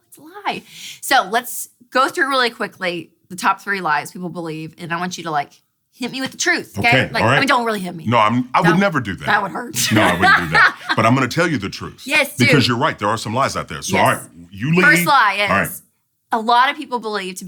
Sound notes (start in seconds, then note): 10.3 laughs